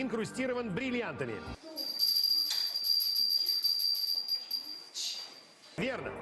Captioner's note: bell sound